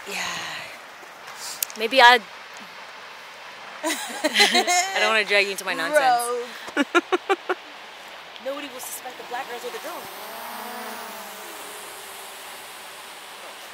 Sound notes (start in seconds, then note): 3.8 both laughing